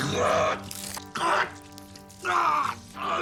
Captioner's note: gurgling